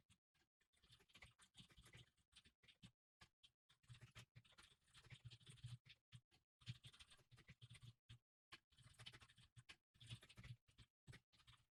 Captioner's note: typing sounds